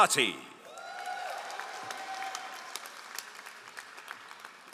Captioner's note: all applauding